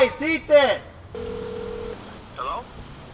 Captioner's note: phone ring of destiny